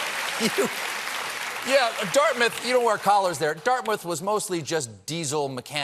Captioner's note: laughter; applause